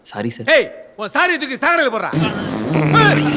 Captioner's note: loud fart